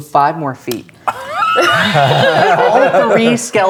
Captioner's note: players laughing